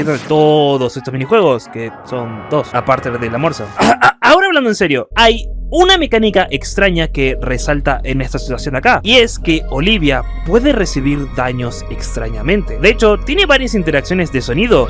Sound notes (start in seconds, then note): 3.8 cough